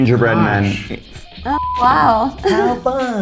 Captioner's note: beep